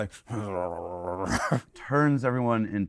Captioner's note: makes growling sound